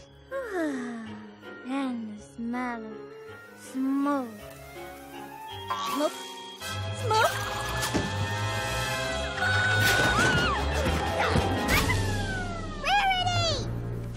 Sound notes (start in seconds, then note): 9.7 crash!